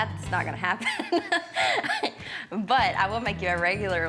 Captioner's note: laughs